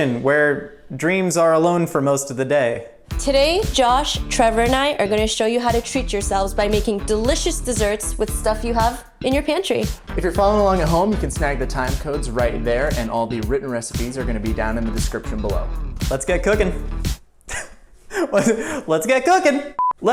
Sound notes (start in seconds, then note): 18.1 laughs